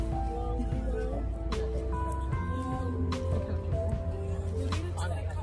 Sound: chatter

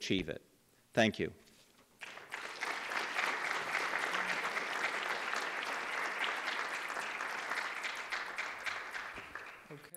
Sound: applause

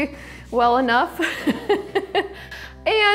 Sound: chuckles

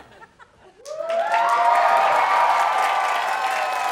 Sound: audience cheering

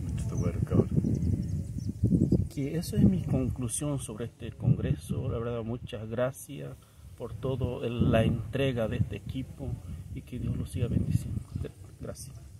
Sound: Spanish

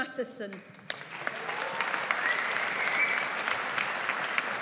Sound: audience applauds

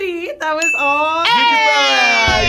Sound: bell dinging

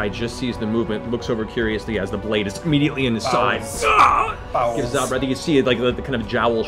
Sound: pained scream

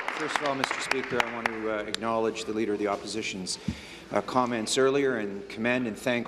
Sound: applause

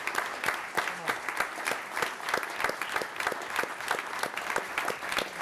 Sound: applause

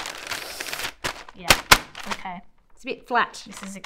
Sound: paper crumples

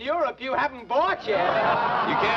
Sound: men laugh

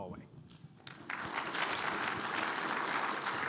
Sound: audience applauding

